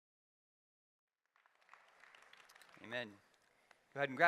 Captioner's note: applause